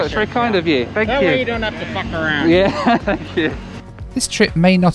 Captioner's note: laughs